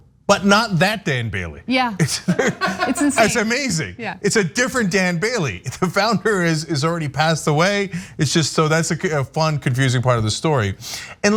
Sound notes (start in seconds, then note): 2.0 laugh